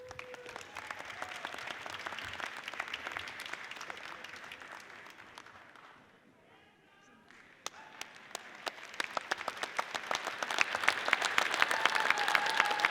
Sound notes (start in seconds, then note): 0.0 audience cheers and applauds; 7.6 audience applauds